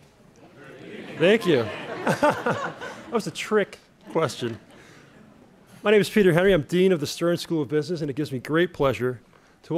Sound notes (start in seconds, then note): 2.4 laughing